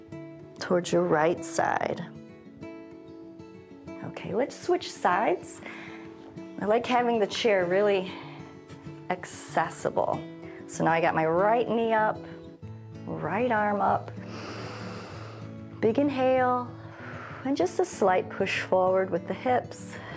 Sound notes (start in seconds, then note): 14.2 inhales